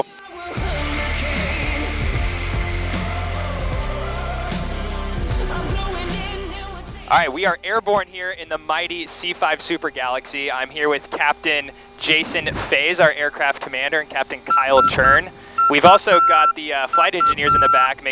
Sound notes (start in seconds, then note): 0.0 upbeat music; 15.0 controls beeping